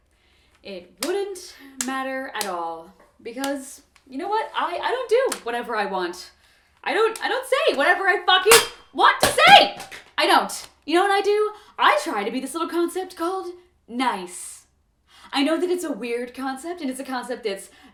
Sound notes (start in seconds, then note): 8.4 rubik's cube hitting metal